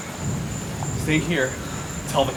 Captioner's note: thunder clapping